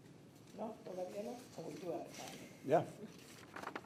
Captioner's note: speaking distantly